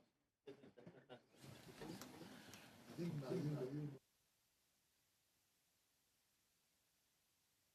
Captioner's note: speaking French